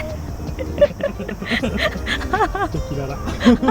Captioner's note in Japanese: 笑い